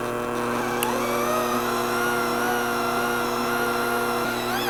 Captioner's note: handmixer whirs